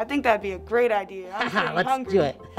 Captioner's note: laughs